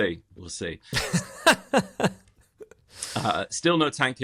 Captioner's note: laughter